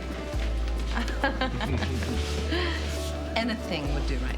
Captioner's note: laughs